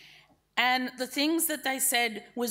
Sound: none

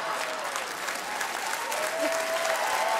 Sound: laughing and clapping

